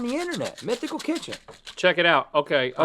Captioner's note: caplets rattle in bottle